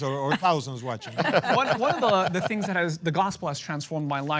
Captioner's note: laughter